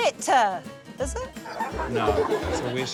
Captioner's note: laughter